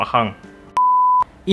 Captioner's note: beep